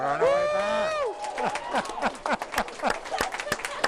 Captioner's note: applauding